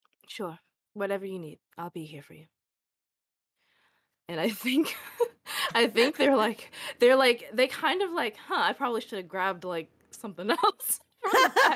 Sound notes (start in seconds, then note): 5.8 laugh